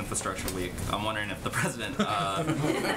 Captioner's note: laughter